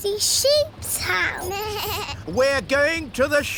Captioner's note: suzy bleats